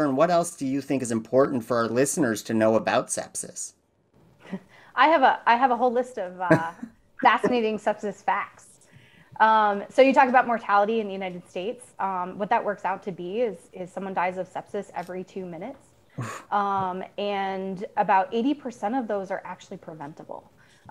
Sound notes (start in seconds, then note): 6.4 chuckles; 6.4 laughs